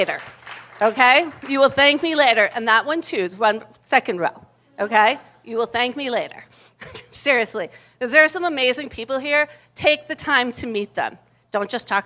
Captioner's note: applause